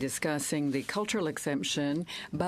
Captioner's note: speaking french